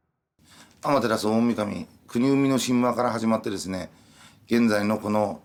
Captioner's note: speaking in Japanese